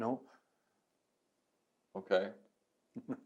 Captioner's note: both laugh